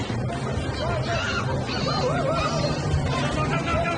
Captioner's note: people shouting